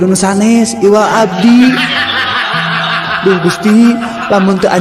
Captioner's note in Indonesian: tertawa